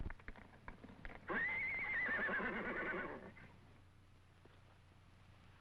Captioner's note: horse whinnying